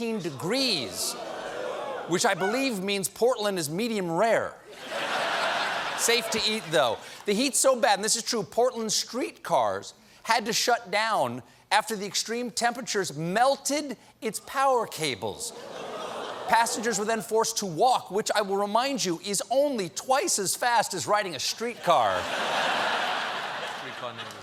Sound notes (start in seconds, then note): 4.7 laughter; 21.8 laughter